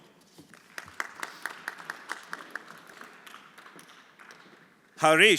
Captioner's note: everyone applauding